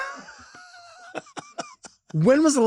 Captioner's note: Lady Bunny laughs